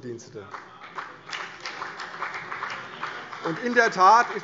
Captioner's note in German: Beifall CDU und BÜNDNIS 90/DIE GRÜNEN